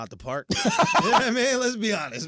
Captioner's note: laughing